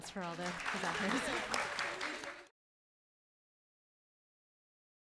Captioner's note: applause